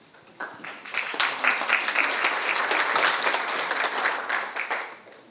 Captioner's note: audience applauding